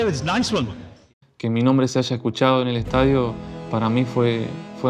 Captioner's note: in Spanish